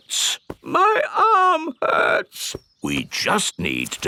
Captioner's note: in teddy's voice; in normal voice